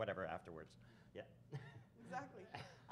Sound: chuckles

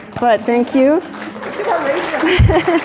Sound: audience clapping

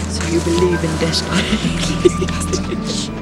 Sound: giggling

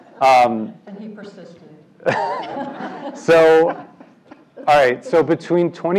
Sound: laugh

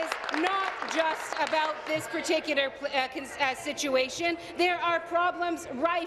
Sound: applause

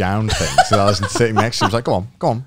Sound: laughing

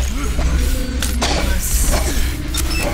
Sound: rock alien snorts

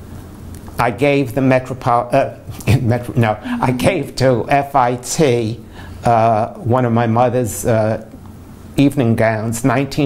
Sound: laughs

